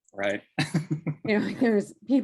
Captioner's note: laughing